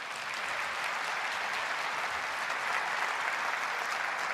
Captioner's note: applause